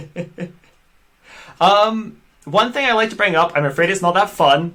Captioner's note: laughs